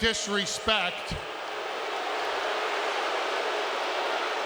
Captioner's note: crowd booting